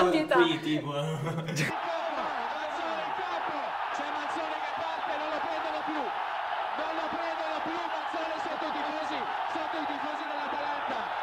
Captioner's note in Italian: Risate; Applauso